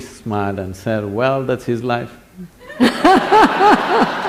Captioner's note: laughter/Applause; 笑聲/掌聲